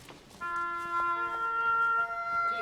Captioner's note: footsteps